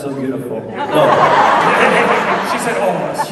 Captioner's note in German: Menge lacht